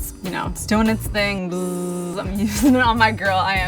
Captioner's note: imitates vibrator buzzing